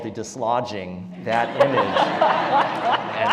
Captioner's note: laugh